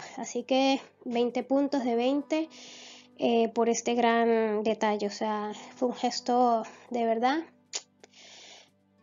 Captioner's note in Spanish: chasquido